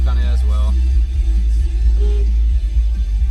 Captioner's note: honks at someone